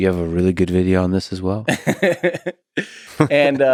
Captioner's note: Tim laughs